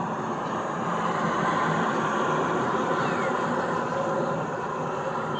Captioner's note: train passes